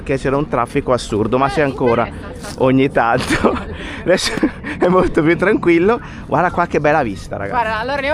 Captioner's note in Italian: risate